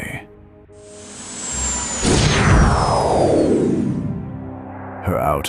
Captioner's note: Jump Drive powering down